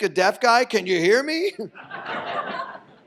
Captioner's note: audience laughs